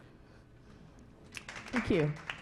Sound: clapping

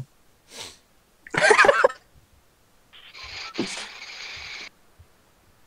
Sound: vape inhale; sniffle; sporadic laughter

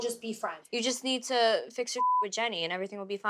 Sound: beep

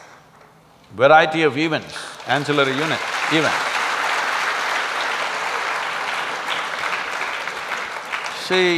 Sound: applause

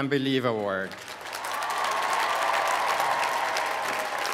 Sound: applause

